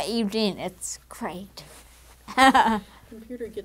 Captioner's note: laugh